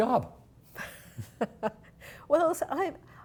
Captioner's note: chuckling